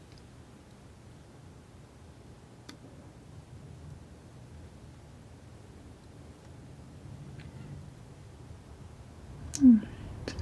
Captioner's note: scratching